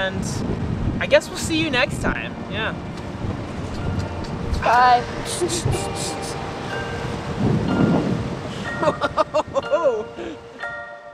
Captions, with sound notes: —and, I guess we'll see you next time!— —Yeah, [finger click] - Bye! - Oh hohoho!